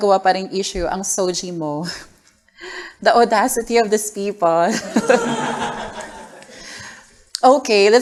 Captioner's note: laughter